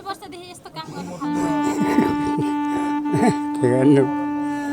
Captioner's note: laughs